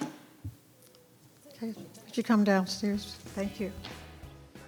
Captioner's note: gavel banging